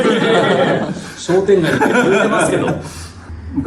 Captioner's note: laughs